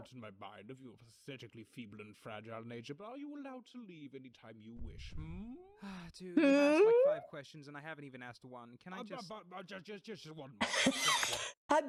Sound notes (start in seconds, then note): 6.4 sighs; 10.6 wheeze laughs